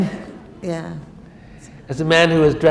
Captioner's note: laughter